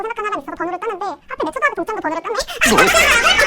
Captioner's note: laughs